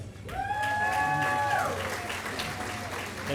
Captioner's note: applause